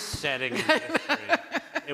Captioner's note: laughter